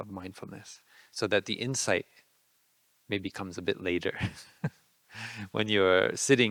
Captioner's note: laughing